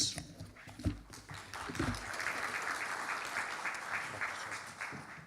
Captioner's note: audience applauding